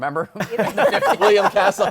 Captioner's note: laughter